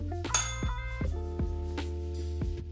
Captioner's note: bell rings